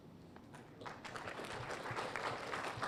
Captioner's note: applause